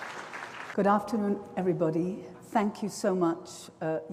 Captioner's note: applause